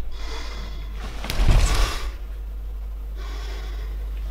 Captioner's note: heavy breathing